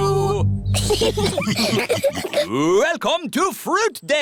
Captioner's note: laughter